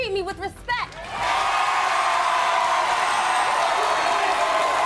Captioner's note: audience cheering